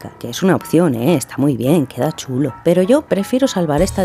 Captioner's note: none